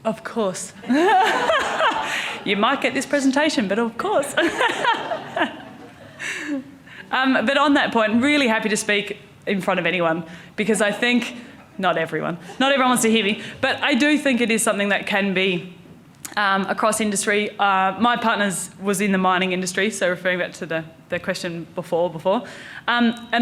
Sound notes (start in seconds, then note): 0.8 audience laughing; 0.9 laughs; 4.3 laughs